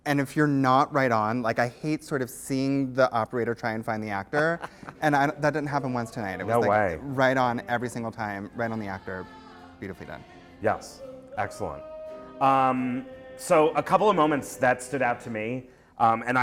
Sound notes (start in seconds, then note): 4.3 laughter; 6.8 voiceover